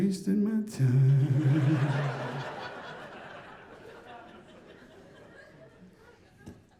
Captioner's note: audience laughing